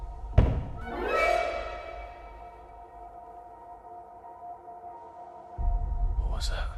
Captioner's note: dramatic music; thudding